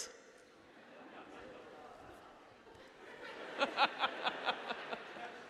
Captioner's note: audience laughing